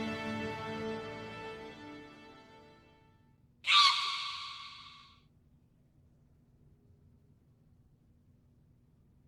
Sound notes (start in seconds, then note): 3.6 monkey sound